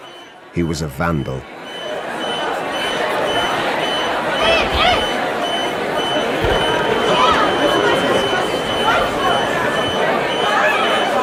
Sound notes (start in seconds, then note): 0.0 beeping; 1.7 commotion